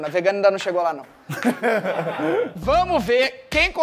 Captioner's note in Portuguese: risadas